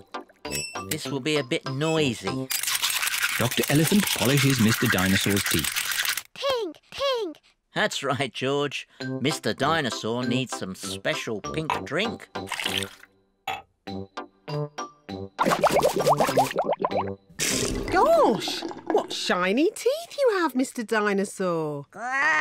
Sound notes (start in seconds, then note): 15.6 bubbles